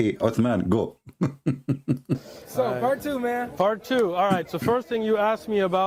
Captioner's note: Ketawa